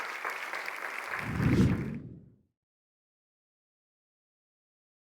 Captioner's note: audience applauds; air swooshing